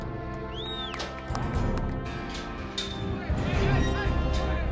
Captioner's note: crowd shouting